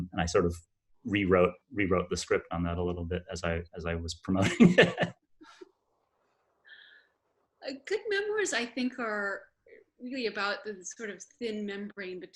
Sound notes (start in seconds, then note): 4.4 laughs